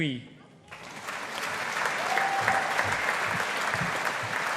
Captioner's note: audience applauding